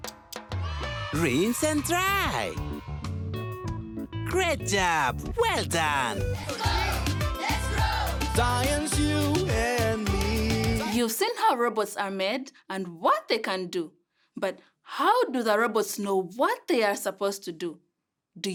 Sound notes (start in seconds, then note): 0.6 kids cheering